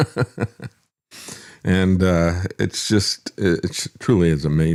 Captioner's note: laugh